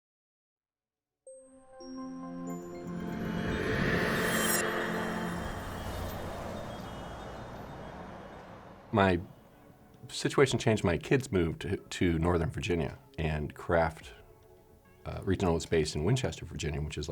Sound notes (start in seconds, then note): 0.0 gentle chiming and wind blowing